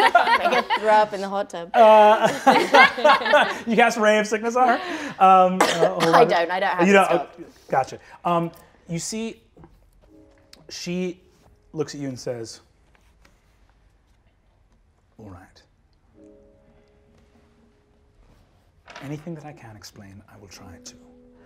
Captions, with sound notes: Make her throw up in the hot tub. (all laughing) - You cast Ray of Sickness on her? Hold on. - I don't, I don't have it stocked. - Gotcha. You see she looks at you and says, "All right. Anything that I can explain, I will try to.